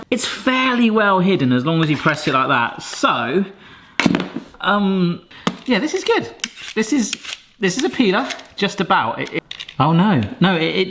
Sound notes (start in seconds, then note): 5.6 peeler rattling